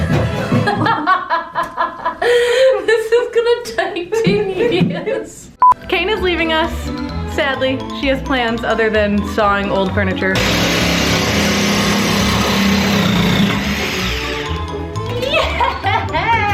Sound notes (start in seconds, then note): 0.4 laughing; 10.3 buzzing